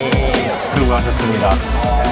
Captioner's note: cheers